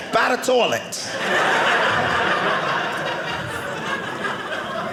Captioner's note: audience laughing